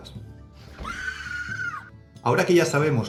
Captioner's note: scream of terror